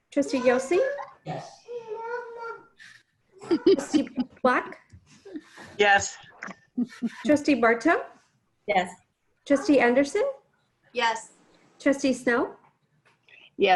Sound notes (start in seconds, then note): 3.4 laughing; 3.4 chattering